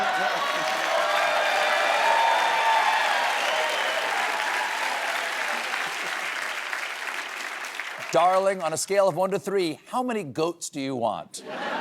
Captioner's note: applause